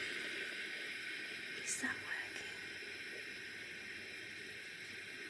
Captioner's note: whispers